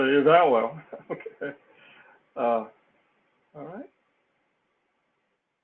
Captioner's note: laugh